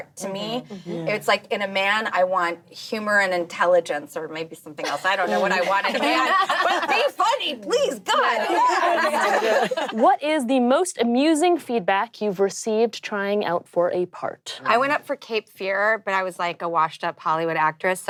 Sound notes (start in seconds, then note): 4.9 laughing